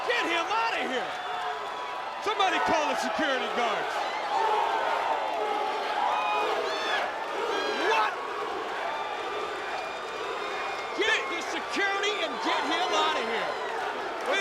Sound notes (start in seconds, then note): 4.0 crowd cheering